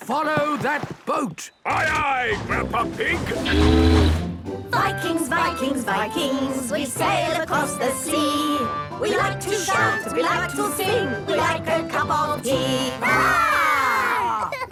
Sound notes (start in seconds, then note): 1.6 tooting; 4.4 all singing